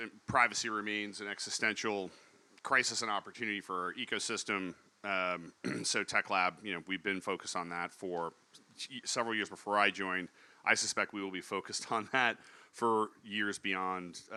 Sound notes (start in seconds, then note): 5.6 cough